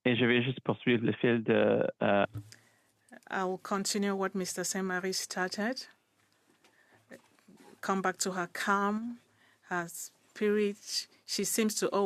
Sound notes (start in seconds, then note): 6.8 speaking French